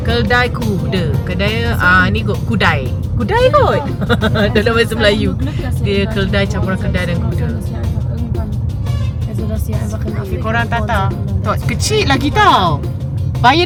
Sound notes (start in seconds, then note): 3.2 laugh